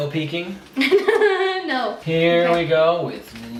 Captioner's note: laughs